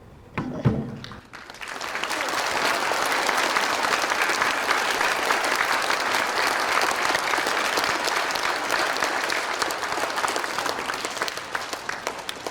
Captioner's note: audience applauding